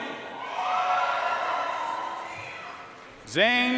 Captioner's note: audience cheering and applauding